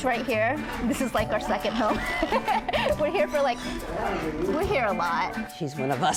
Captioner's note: laughs